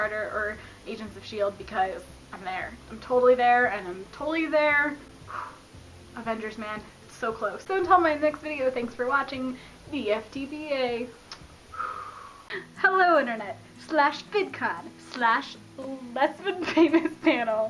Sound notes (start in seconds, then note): 11.2 blows kiss